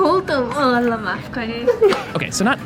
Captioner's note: speaks foreign language